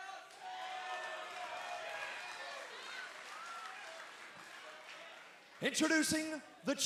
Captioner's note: cheers and applause